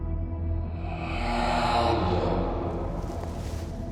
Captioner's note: ghostly Voice